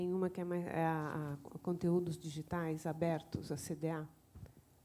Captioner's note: in Spanish